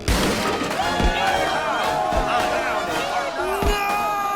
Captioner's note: crowd cheering